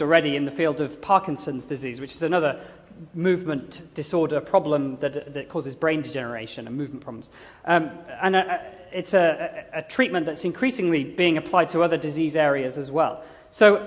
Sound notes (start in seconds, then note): none